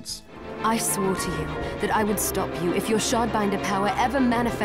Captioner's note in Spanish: audio del juego